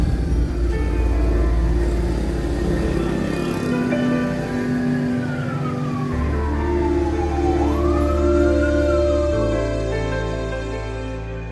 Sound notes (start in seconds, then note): 2.9 car, mothercycle, siren sounds